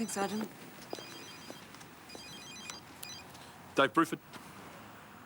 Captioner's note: phone ringing